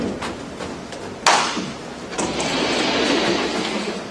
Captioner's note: whiteboard moves